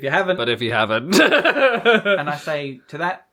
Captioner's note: laughing